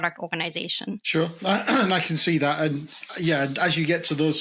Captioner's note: clears throat